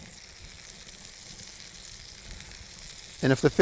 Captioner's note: sizzling